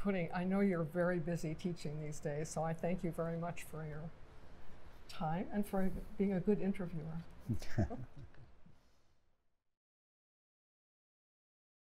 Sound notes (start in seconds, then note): 7.5 laughing